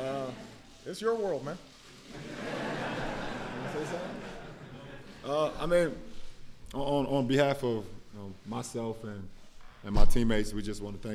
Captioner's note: laughter